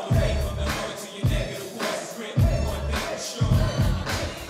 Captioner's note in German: Gedämpfte anfeuernde Rufe; Musik stoppt